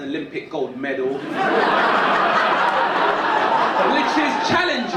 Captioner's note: audience laughing